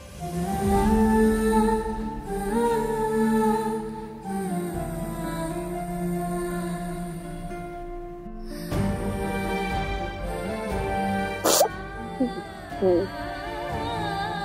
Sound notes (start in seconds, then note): 0.1 sombre music playing; 12.2 sobs